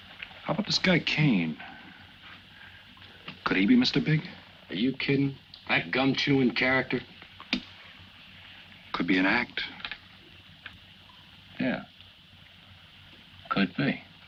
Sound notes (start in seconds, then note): none